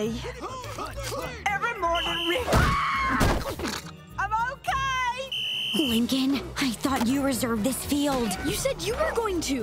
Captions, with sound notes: Hut, hut. Every morning we- [screaming] - I'm okay! [whistle blowing] Lincoln, I thought you reserved this field. You said you were going to.